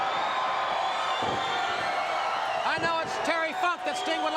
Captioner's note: crowd cheering